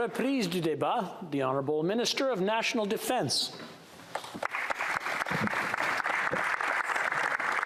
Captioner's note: applause